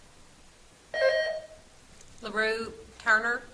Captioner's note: buzzer trills